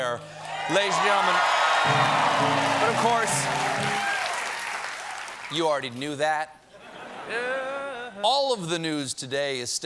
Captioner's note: cheers and applause